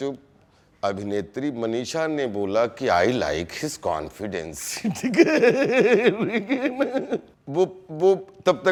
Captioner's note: laughs